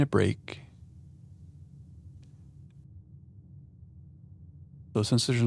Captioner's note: silence